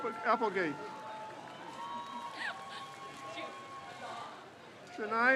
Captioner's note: crowd cheers